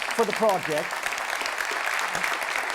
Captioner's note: audience applause